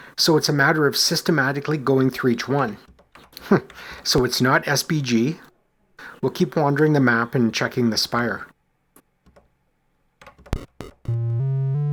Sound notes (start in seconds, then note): 3.4 chuckles